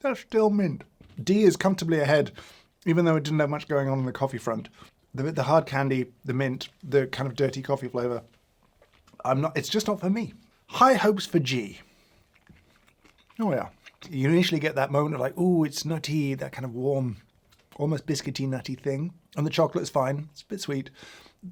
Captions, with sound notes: Is that still mint? D is comfortably ahead even though it didn't have much going on in the coffee front. The hard candy, the mint, the kind of dirty coffee flavor, (gulps) I'm not - it's just not for me. High hopes for G. Oh, yeah. You initially get that moment of like, "Ooh, it's nutty." That kind of warm, almost biscuity, nutty thing. And the chocolate's fine. It's a bit sweet.